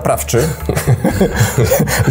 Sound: laughter

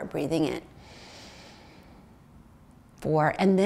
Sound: inhales

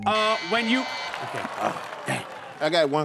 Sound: buzzer

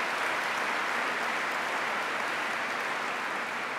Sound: applause

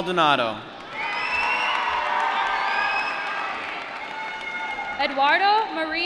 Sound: applause

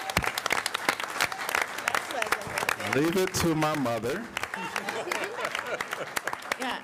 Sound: applause

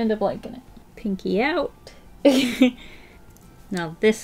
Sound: laughs

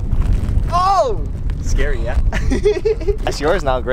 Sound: laughs

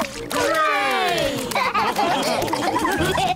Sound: all laugh

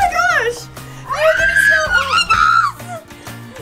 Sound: screaming

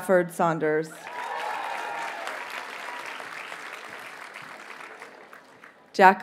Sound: audience cheers and applauds

